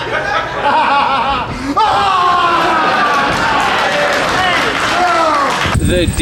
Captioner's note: laughs; screams in pain